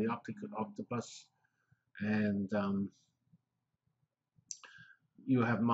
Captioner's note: pause